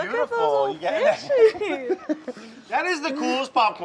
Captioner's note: both laugh